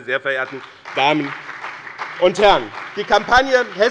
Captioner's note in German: Beifall bei dem BÜNDNIS 90/DIE GRÜNEN und der CDU